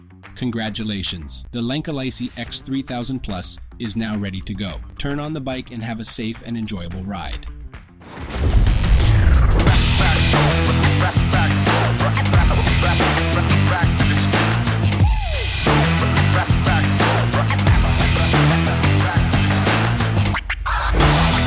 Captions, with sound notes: congratulations, the Lankeleisi X3000 Plu is now ready to go! turn on the bike and have a safe and enjoyable ride [Bk42 Logo Explosion] [Rock Music]